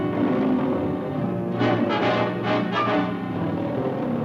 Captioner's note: growling